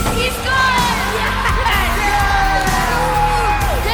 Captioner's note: cheering